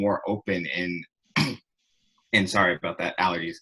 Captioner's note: coughs